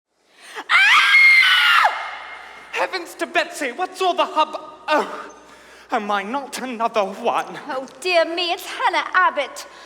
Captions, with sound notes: [Shrill scream] Heavens to Betsy! What's all the hubbu- oh! Oh my, not another one Oh dear me, it's Hannah Abbot!